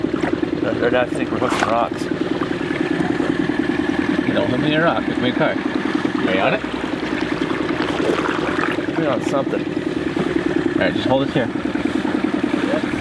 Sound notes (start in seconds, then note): 6.3 boat engine vibrating; 8.3 water splashing